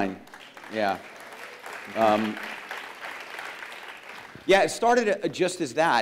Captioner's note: applause